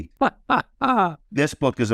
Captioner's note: laughs